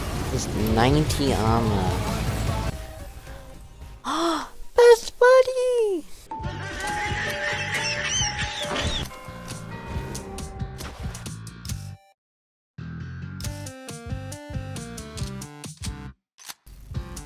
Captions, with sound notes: this ninety armour (gasp of pure joy) Best Buddy!!!! :D